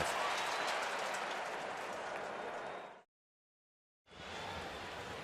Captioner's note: cheering